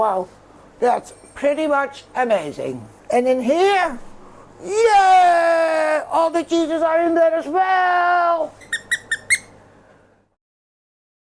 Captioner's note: squeak squeak squeak